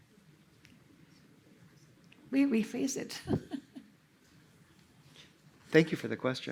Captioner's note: laughter